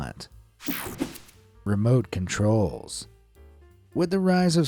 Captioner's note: air fizzing